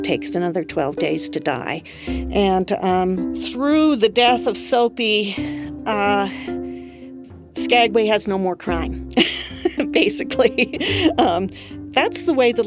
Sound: laughs

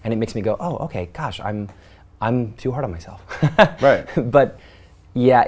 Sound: laughs

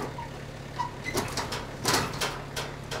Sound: engine

